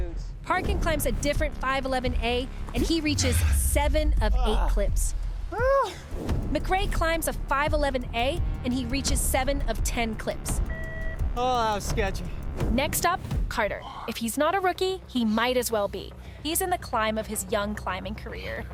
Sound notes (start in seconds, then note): 4.5 man yelling